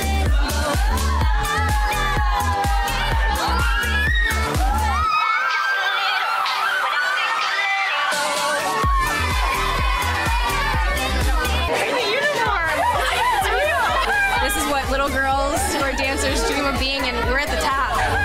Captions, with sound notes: (screaming) - We have uniforms, it's real! - This is what little girls who are dancers dream of being, and we're at the top.